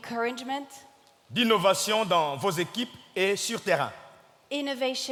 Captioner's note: speaking in French